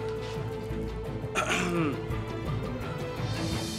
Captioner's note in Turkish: Boğazını Temizliyor